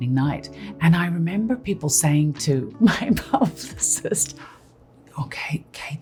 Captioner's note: laughs